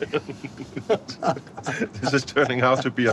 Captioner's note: laughing